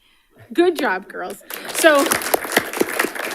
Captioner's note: audience applauding